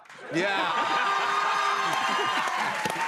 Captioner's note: cheers and applause